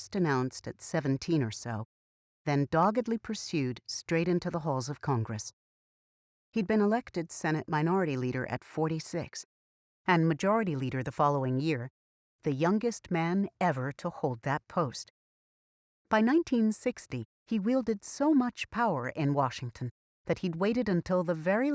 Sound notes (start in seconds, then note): none